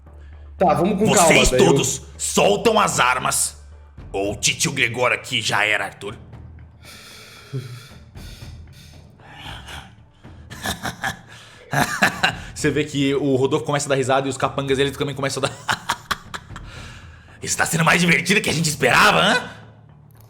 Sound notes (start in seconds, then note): 10.5 evil laugh; 16.4 evil laughter